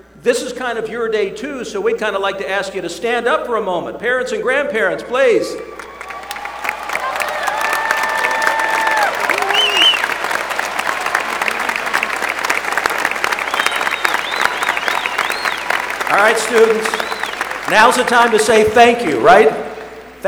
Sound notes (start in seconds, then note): 5.6 applause